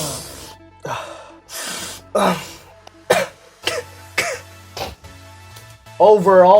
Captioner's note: sniff sound; coughing